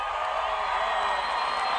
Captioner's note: audience cheering